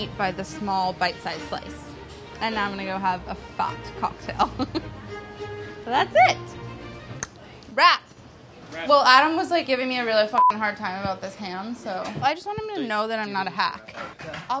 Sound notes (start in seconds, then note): 4.3 laughs; 6.6 tongue clicks